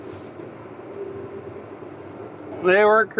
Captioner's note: tractor engine rumbling